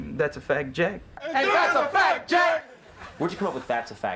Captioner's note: shout in unison